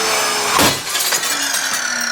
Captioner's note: loud Scary Power Saw Sounds; glass Smashes!!